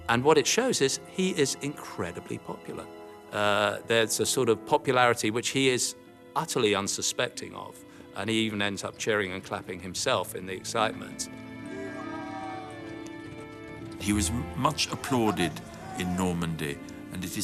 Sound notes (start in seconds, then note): 11.2 gentle music; 11.6 people cheering